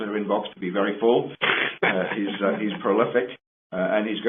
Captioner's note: laughs